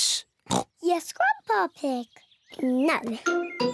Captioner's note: oinks